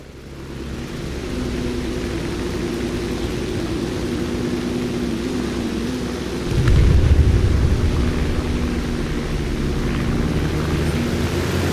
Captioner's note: engines, machine guns, flying sounds